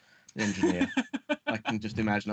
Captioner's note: laughing